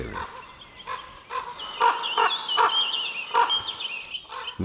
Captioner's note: squawking